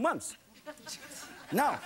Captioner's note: laughing